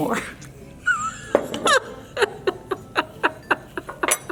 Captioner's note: laughing